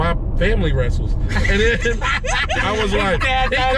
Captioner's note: laughter